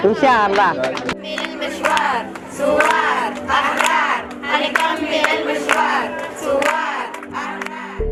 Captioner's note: girls chanting